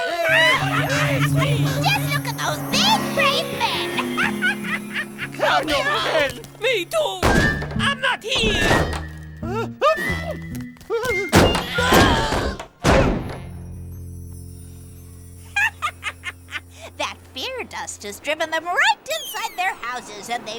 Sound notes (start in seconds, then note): 0.0 witch cackles; 9.9 man sneezes; 11.5 all yelling; 15.5 witch cackles